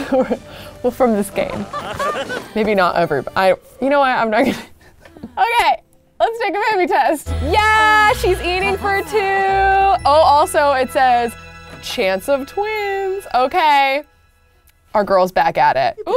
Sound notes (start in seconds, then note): 4.4 laughs